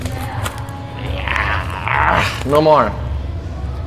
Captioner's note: growling